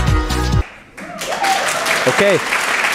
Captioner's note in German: Jubel, Applaus